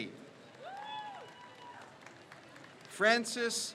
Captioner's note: crowd cheers